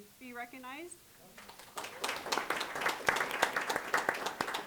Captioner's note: applause